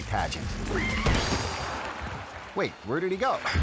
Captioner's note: audience screaming